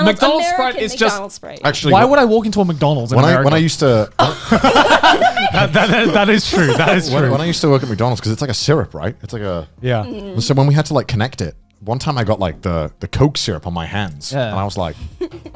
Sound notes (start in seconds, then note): 4.2 laughing